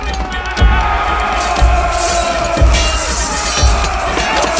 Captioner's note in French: Bruits de combat, épées, boucliers